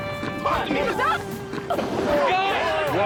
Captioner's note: shouting